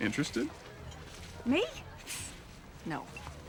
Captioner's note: scoffs